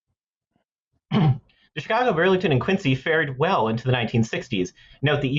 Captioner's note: clears throat